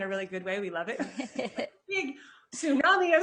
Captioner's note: chuckling